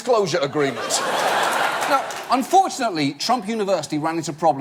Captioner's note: audience laugh